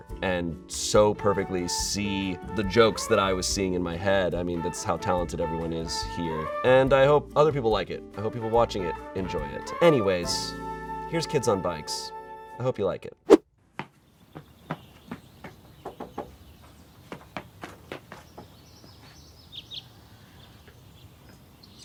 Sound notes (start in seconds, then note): 14.7 birds chirping; 16.1 knocking on door